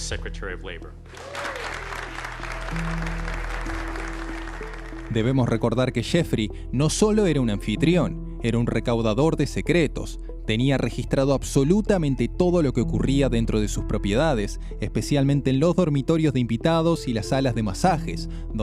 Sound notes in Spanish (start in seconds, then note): 4.1 aplausos